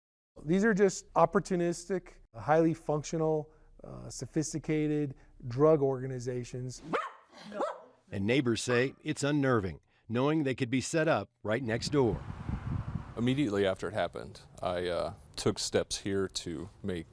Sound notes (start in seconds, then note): 6.8 barking